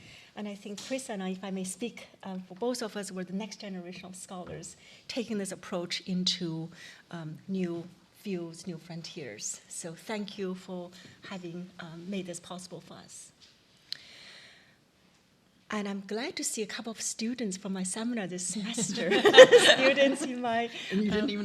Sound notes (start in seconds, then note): 19.0 laughing